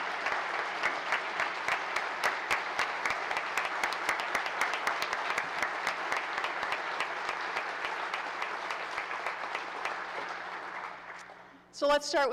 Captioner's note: applause